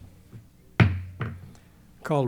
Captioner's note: gavel pounding